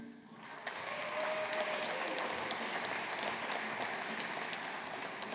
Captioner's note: audience applauding